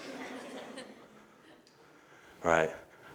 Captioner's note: audience laughter